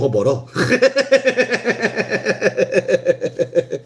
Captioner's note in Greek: γέλια